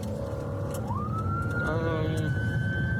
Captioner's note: siren blaring